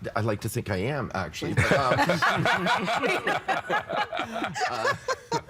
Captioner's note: all laughing